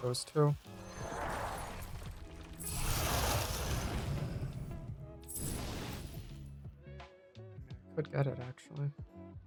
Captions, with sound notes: those two. (whooshing) Could get it, actually.